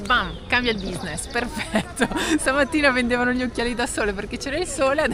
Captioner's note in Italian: risate